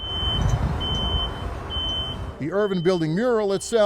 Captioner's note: beeping